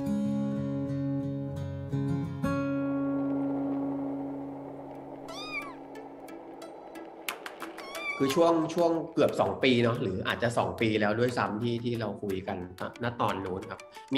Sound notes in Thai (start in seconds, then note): 5.2 เสียงแมวร้อง